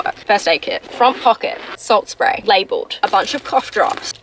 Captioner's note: none